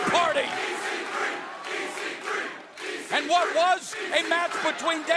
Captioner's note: crowd cheering